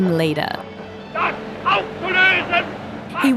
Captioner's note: shouts in german